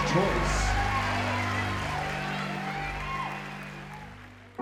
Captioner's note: applause